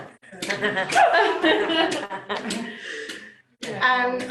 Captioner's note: laughter